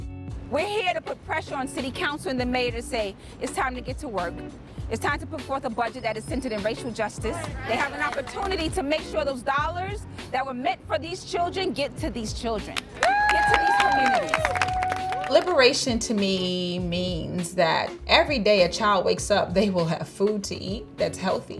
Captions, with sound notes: We're here to put pressure on city council and the mayor to say "It's time to get to work." It's time to put forth a budget that is centered in racial justice. They have an opportunity to make sure those dollars that were meant for these children get to these children... [APPLAUSE] ..get to these communities. Liberation, to me, means that every day a child wakes up, they will have food to eat that's healthy.